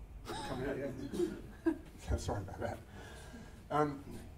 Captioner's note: laughter